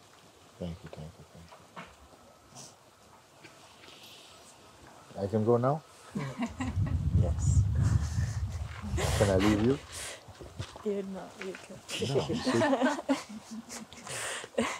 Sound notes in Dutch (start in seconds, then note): 6.1 lacht; 11.9 gelach